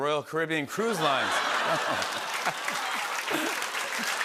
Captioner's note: laughter and applause